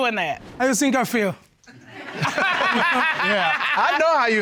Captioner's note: all laugh